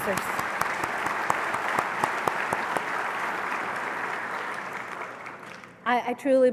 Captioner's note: applause